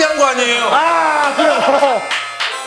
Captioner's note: argh